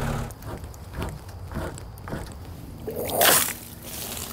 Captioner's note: wood scraping; water splashing